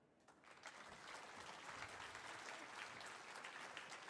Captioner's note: audience applauding